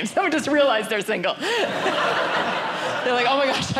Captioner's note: audience laughing